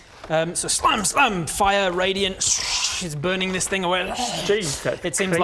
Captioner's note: shhch